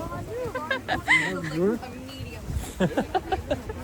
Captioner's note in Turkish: kahkaha